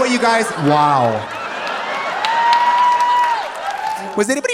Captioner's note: audience laughing; audience cheering